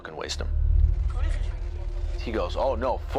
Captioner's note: children speak in foreign language